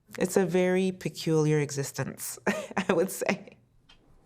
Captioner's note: laughs